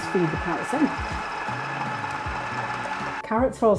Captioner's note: food processor whirring